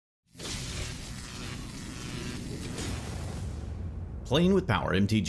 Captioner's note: electricity hissing